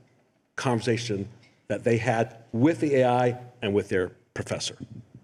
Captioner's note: none